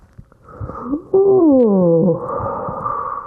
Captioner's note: moans